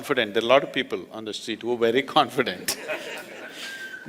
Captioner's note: laughter